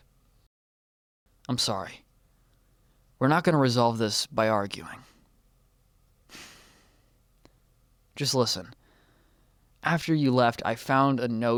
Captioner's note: sighs